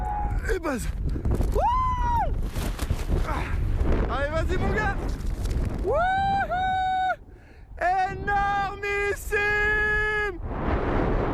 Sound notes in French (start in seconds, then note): 7.6 il crie